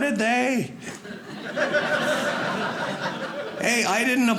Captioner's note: audience laughing